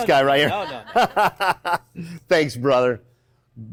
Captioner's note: laughing